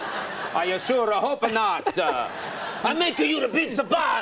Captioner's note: audience laughs